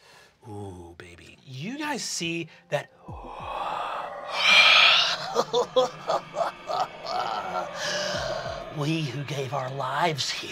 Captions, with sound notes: You guys see that (sighs heavily) (laughs) we who gave our lives here defend the master.